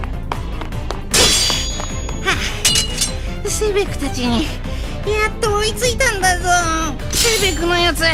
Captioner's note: pant, pant